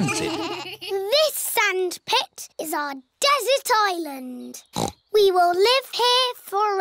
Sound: snorts

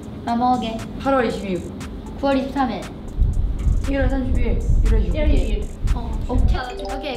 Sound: speaks in Korean; speaks Korean; speaks in Korean

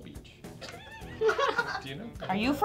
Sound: laughing

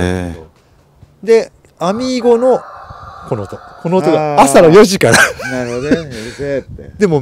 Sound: chicken barks

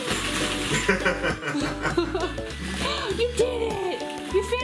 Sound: laugh

